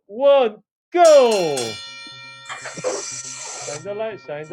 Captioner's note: bell ringing